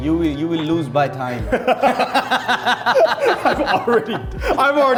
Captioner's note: both laughing